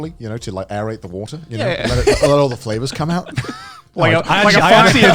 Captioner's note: laughs